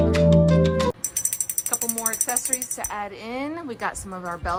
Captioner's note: bell Ringing